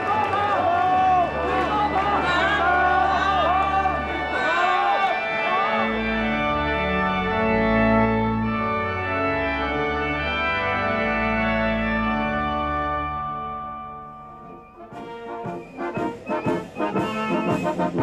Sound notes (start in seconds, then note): 0.0 crowd shouting; 6.0 joyful organ music; 15.0 triumphant music